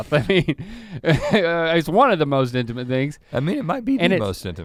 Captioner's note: chuckles